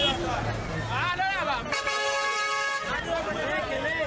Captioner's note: truck horn blares